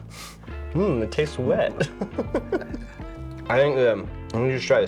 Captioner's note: chuckles